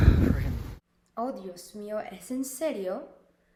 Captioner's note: Spanish